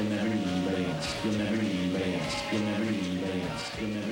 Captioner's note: echoing